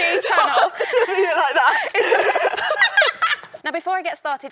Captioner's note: both laughing